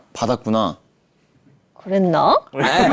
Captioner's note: stuttering